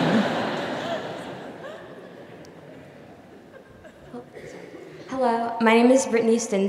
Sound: laughter; laugh

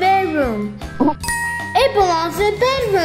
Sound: bell dings

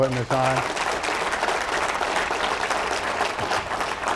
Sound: applause

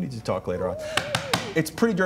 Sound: knocking sound

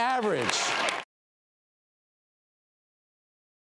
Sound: silence

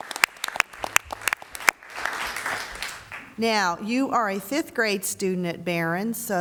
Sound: applause

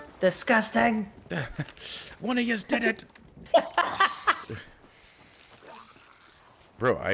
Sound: laugh

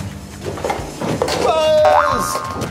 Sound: rumbling down slide

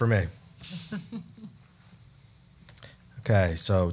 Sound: group chuckling

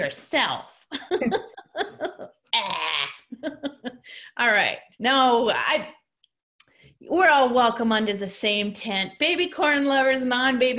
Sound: laughter

